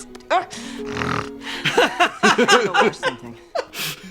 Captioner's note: snarls